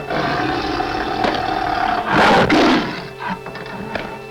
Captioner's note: soft growling; swatting